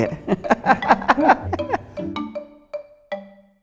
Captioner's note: laughing